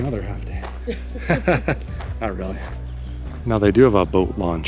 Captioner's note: laughter